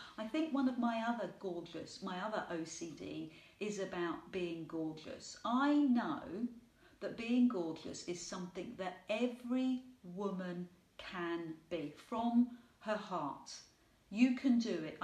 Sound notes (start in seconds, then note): none